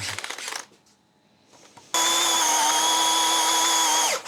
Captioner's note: drilling